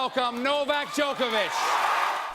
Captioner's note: cheering and applause